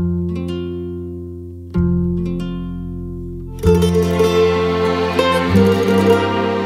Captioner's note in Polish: Aplauz